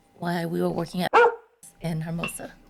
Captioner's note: bark